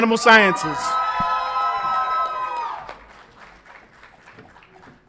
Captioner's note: audience applauds and cheers